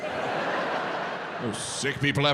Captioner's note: audience laughing